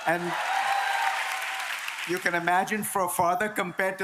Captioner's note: applause